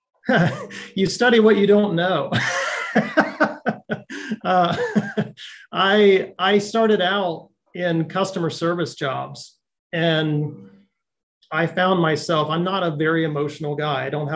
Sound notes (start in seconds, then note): 2.2 chuckles; 2.3 laughs